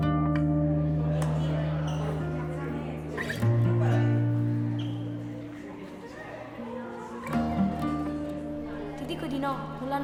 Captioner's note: students voices